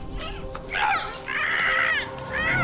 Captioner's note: muffled screams